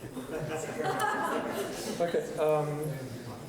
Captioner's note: laughing